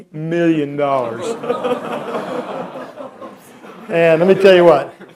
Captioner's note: laughter